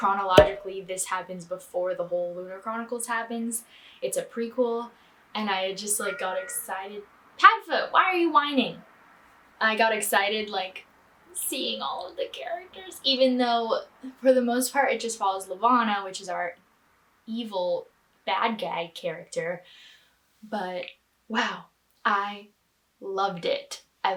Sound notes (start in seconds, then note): 6.0 cat meows